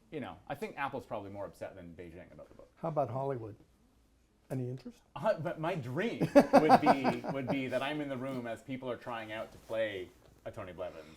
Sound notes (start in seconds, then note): 6.2 laughs